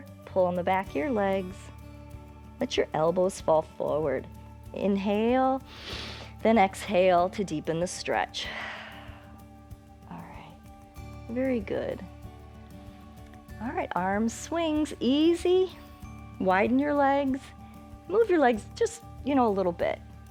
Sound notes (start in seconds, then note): 5.7 inhales; 9.3 exhales